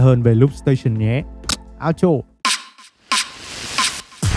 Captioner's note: click